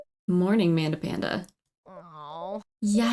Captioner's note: groans